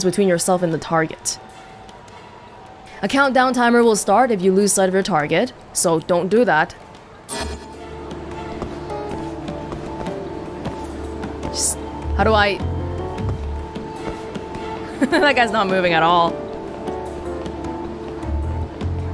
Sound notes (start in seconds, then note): 14.9 laughs